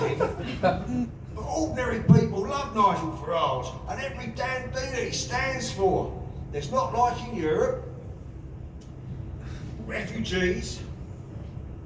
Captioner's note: laughter